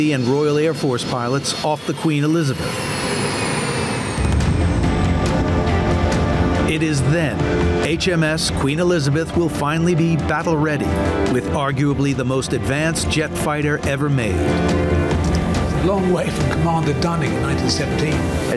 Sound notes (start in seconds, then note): 2.6 intense music; 2.6 plane whizzing